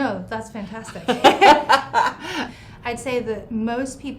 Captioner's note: laughing